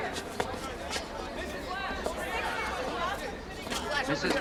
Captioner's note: chattering